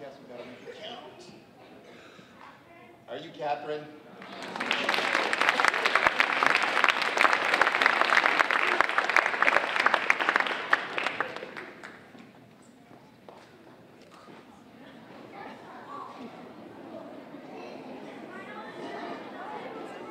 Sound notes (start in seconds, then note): 4.1 audience applauding